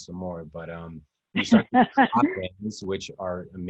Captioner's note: laughs